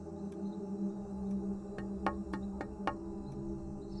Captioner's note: Jannat knocking on the door